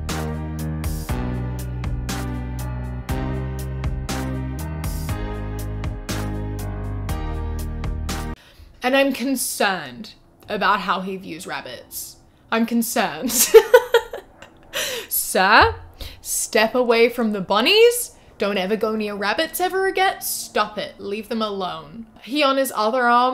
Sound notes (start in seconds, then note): 0.1 epic music plays; 13.3 laughs